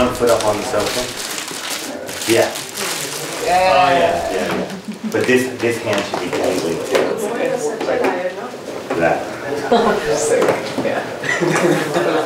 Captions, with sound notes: - Put one foot up on the sofa Yeah, oh yeah. - This hand should be hanging here. [Voices Chatting]